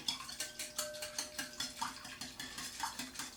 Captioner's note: whisking